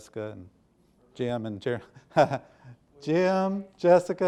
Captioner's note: lightly chuckles